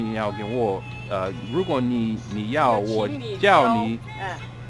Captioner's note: mandarin